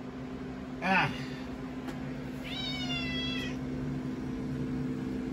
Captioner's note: Caprice meows